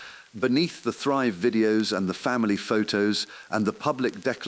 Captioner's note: exhale